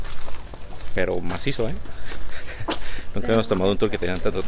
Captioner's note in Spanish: risas